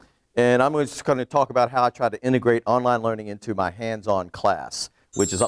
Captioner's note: twinkle noise